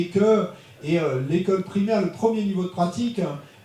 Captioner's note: speaking in French